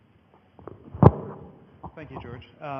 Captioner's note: microphone noises